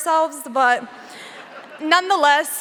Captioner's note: audience laughing softly